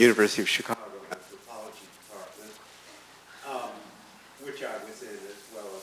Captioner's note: microphone flickering